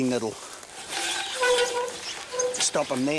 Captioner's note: hose rasping; handle squeaking